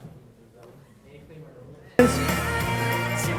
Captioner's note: audience discussing; upbeat music